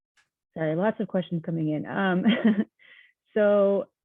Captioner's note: chuckling